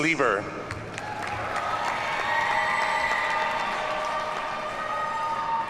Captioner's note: audience cheers and applauds